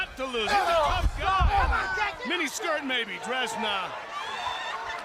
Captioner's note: crowd chatter